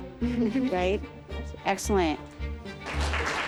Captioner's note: laughs; applause